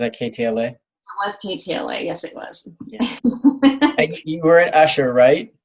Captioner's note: laughs